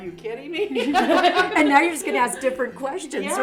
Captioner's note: women laughing